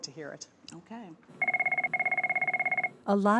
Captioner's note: phone rings